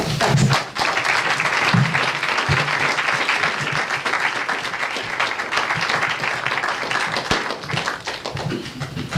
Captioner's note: audience applauds